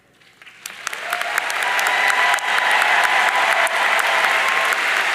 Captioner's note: audience cheering and applauding